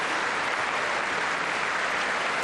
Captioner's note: applause